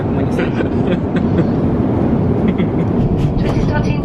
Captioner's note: laughs